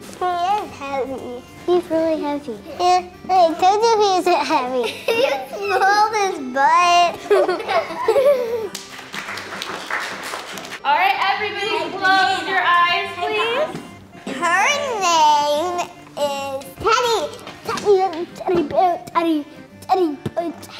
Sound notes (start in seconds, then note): 7.0 children laughing; 7.0 laughs; 8.6 children clapping